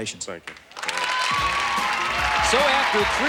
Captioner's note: applause and cheering